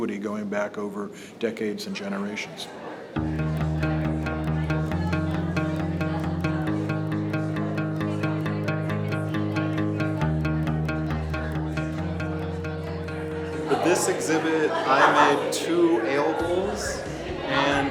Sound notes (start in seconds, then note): 4.2 upbeat music; 7.0 visitors chatting